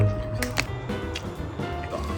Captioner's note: the water is boiling